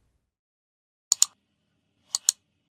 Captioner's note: mouse clicks